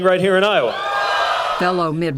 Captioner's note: cheering and applause